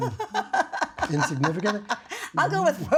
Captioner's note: laughter